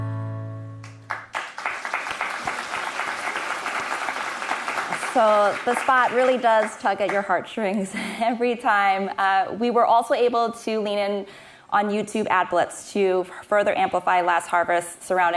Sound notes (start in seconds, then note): 3.3 applause